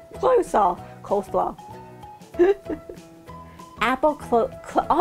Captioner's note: laughing